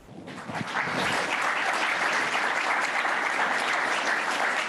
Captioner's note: applause